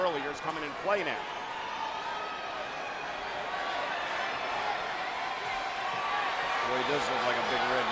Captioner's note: applause